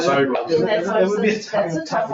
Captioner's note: people chattering